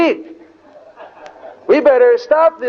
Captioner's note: devotees laugh